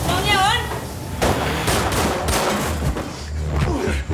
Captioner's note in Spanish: Disparos